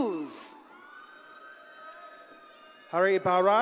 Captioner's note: audience cheers and applauds